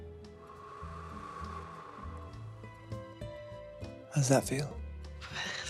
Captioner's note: Ludo gently blowing air